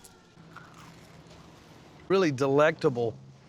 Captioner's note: crunching sound